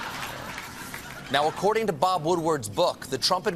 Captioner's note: laughter